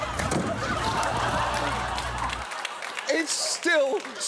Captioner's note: studio audience laughs